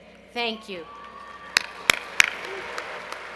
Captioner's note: applause